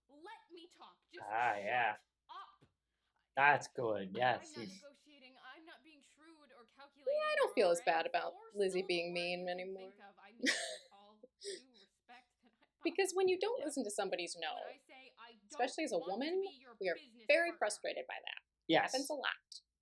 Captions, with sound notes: Ah, yeah! That's good, yes. - I don't feel as bad about Lizzie being mean, anymore. [laughter] Because when you don't listen to somebody's no, especially as a woman? You're very frustrated by that. It happens a lot.